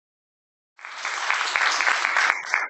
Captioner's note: applause